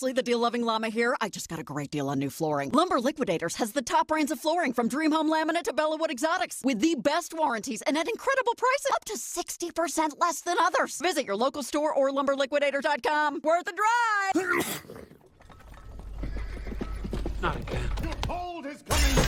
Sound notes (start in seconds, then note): 14.3 sneeze; 16.9 hooves approaching